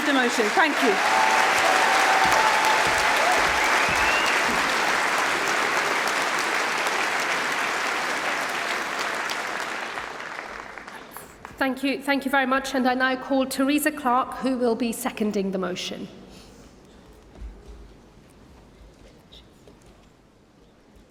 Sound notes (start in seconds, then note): 6.9 cheering & Applause